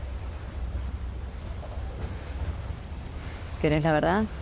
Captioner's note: wind blowing